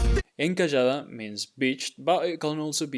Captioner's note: speaking in Spanish